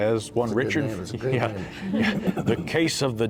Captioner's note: laughs